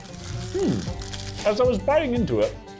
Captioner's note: humming